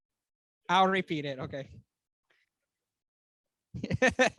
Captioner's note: laughs